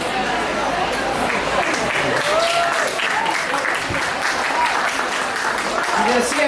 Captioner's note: applause